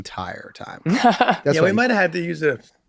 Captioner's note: laughing softly